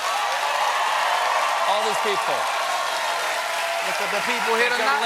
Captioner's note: applause